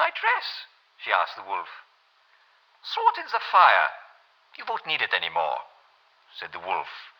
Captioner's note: German accent